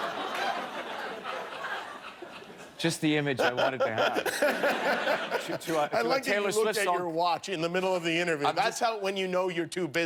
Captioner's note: laughter